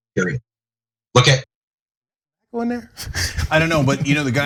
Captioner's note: laugh